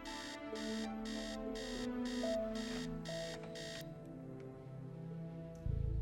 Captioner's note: alarm